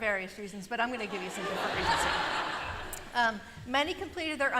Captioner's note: laughter